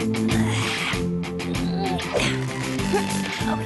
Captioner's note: grunting